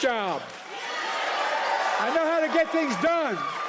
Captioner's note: applause